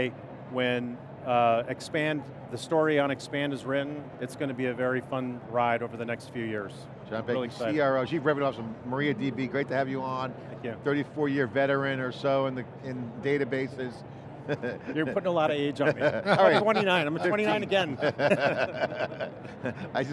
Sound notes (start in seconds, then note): 14.5 laughs; 18.7 all laugh